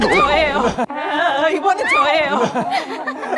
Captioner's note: hover hover